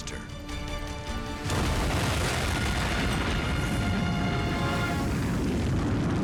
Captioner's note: explosion blasting